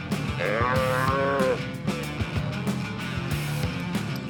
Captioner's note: calf moos